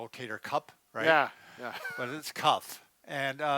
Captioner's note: laughs